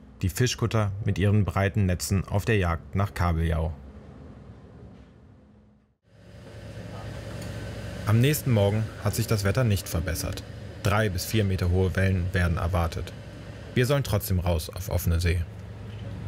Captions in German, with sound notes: Die Fischkutter mit ihren breiten Netzen auf der Jagd nach Kabeljau. (Zischen) Am nächsten Morgen hat sich das Wetter nicht verbessert. Drei bis vier Meter hohe Wellen werden erwartet. Wir sollen trotzdem raus auf offene See.